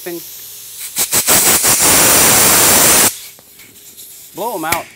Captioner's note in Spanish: Soplando aire